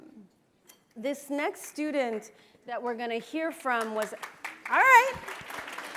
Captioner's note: applause